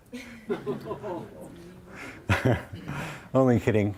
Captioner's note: audience chuckles